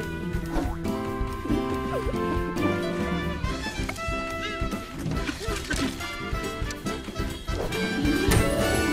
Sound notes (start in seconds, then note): 0.7 giggles